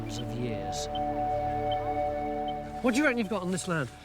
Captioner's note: machine beeps